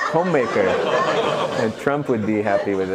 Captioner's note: laughter